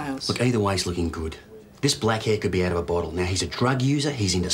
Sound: none

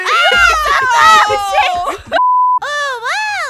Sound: screams

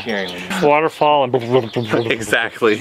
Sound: bubble sounds

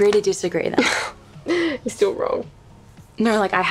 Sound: chuckles

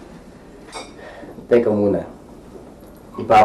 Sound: sighs

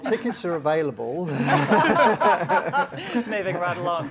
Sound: laughter

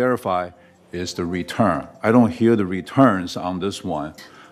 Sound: cell phone ringing

